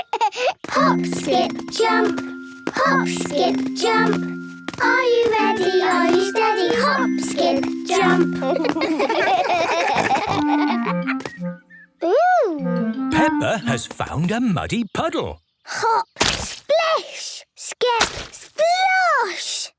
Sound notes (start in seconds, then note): 8.4 laughing